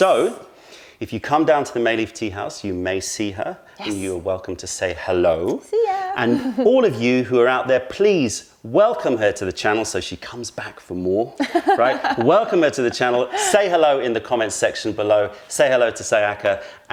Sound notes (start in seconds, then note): 11.3 laughter